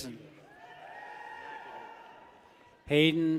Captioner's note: people cheer